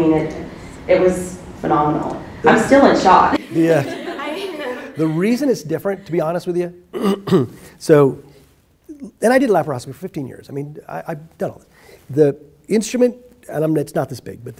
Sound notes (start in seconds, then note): 3.3 women giggle